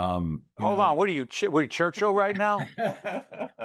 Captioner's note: laughs